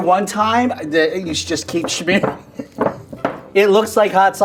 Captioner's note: laughing